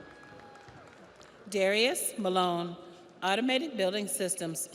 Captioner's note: audience cheers; audience applauds